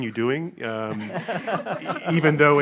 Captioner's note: audience and panel laughing